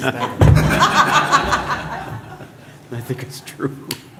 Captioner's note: laughter